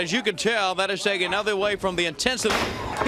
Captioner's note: crowd chatter